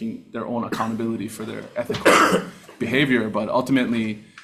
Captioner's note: senator coughing